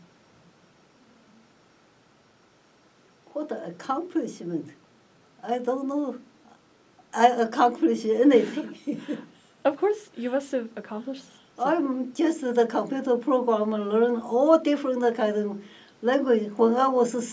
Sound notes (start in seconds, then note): 0.1 pause; 8.3 laughs